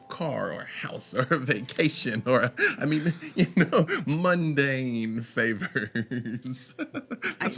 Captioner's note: laughs